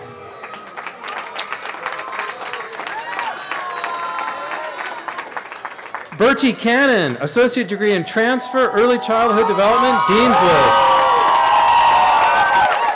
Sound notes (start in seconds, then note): 2.9 applause